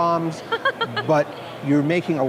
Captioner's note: chuckles